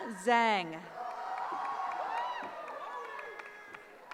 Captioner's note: cheering